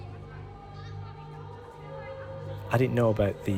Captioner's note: dancers chattering